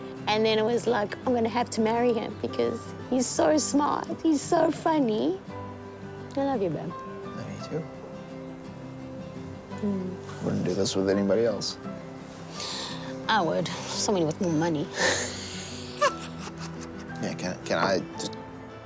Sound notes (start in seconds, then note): 15.0 laughs